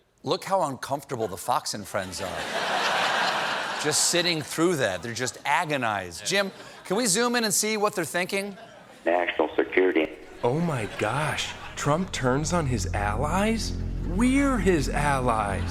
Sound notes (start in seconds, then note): 5.9 laughter